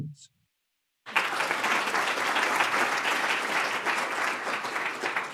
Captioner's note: audience applauds